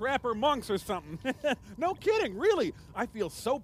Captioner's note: chuckles